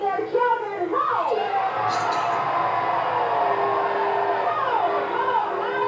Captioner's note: cheers